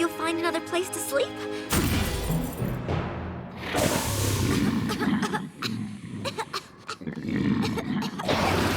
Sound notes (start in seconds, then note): 5.6 snoring loudly; 6.1 coughing